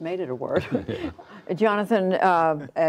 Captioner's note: laughter